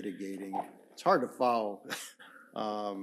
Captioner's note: chuckles